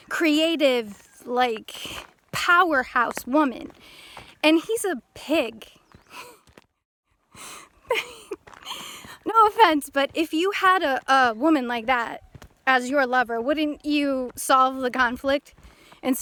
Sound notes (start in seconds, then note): 7.8 laughs!